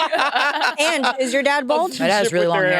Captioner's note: participants laughing